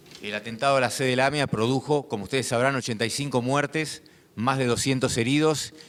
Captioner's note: speaking in foreign language